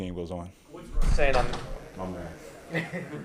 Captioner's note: boom; laughter